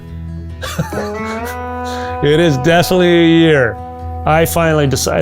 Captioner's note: laughs